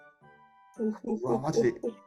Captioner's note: nervous laughter